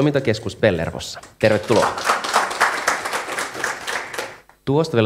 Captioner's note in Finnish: Aplodeja